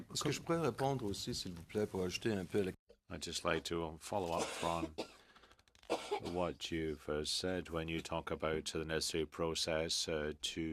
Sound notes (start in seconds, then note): 5.4 speaking French